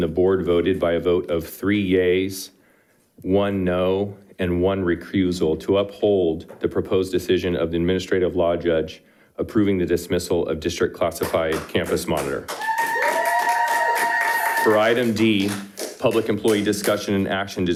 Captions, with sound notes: the Board voted by a vote of three yays, one no, and one recusal, to uphold the proposed decision of the administrative law judge, approving the dismissal of district classified campus monitor. (audience applauding) (audience cheering) For Item D, public employee discussion and action